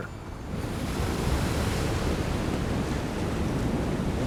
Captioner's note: waves rumbling